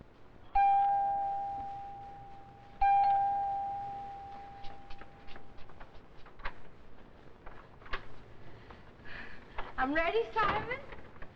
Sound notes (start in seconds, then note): 0.5 door bell